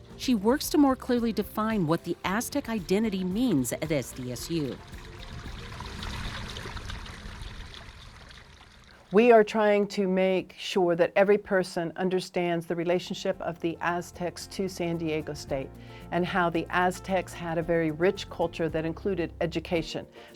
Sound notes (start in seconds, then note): 5.2 fountain with full natural sound